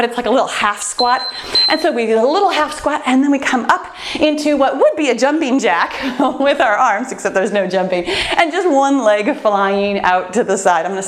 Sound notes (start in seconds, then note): 0.9 timer beeps; 6.0 laughs